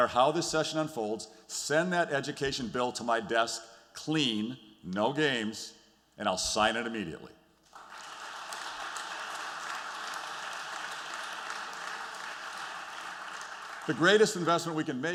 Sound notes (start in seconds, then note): 7.6 applause